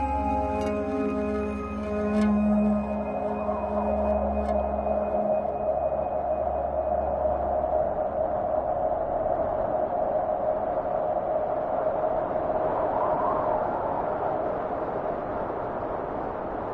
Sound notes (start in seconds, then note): 0.0 gentle music continues; 2.8 wind whistling; 11.8 wind whistling continues